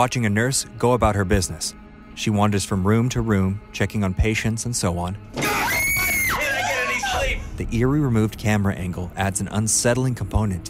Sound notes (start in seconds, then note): 5.4 woman screaming